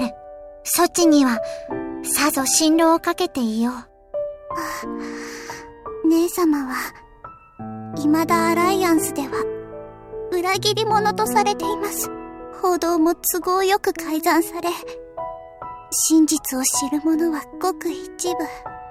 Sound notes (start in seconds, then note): 4.6 bated breath